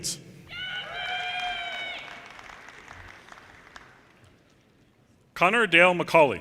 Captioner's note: audience cheers and applause